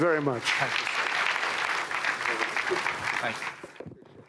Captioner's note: applause